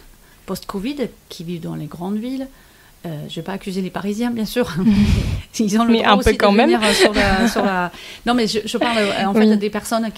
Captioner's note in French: rires